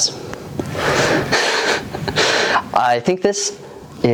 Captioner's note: laughs